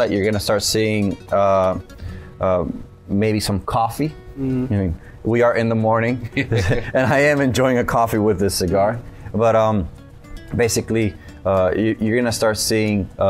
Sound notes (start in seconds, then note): 6.3 laughter